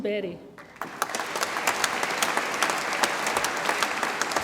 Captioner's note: audience applauds